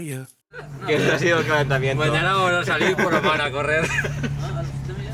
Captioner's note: laughs